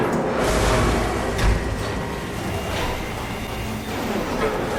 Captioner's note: sounds of machinery and metal grinding